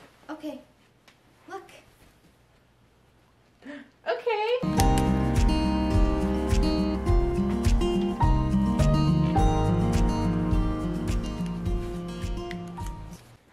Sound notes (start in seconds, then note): 3.6 gasp; 4.6 sunny Day Music